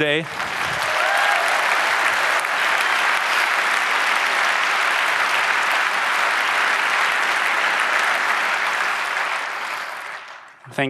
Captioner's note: applause